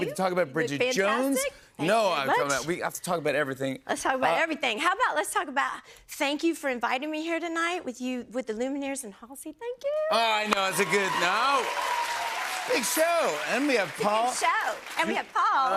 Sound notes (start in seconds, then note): 10.2 cheers and applause